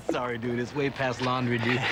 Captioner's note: laughing